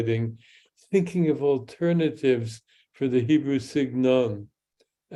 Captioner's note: speaks in Hebrew